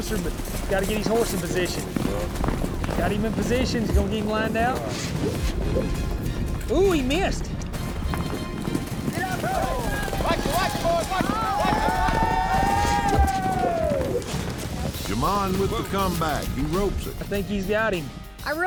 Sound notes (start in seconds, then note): 8.0 hoofbeats; 9.1 cowboys shouting